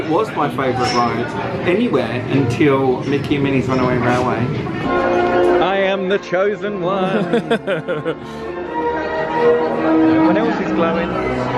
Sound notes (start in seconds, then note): 7.0 laughs